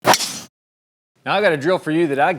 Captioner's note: metallic whooshing